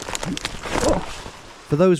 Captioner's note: branches and leaves rustling